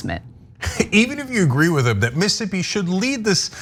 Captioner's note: laugh